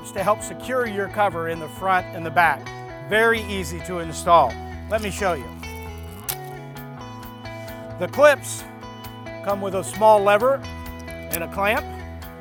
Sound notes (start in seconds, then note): 4.9 crunching plastic; 6.3 upbeat instrumental music